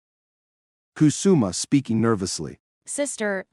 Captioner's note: speaking nervously